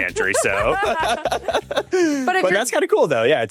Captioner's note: both laughs